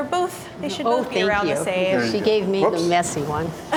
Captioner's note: none